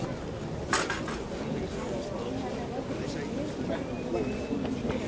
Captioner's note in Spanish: chocan las espadas y el público comenta